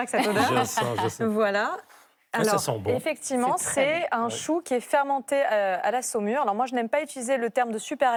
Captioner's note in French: rires